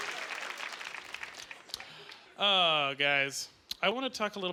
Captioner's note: clapping